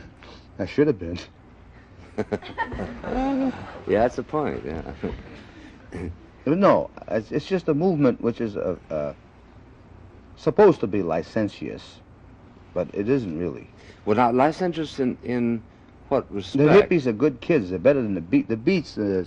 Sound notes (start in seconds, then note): 2.0 laughter